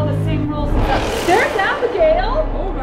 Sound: shocking whoosh

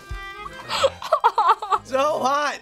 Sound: whimpers

